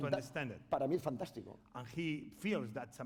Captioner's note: speaking spanish